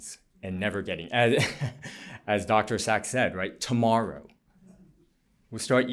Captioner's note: laughter